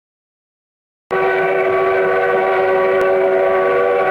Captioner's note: train hooting